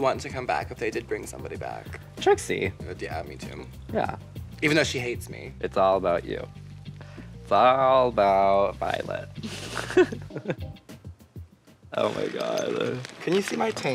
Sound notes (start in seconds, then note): 9.4 laughing